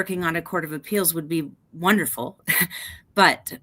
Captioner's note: chuckles